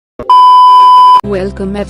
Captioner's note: disclaimer Beep